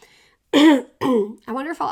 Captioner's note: clears throat